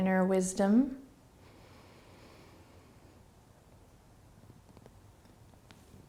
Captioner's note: breathing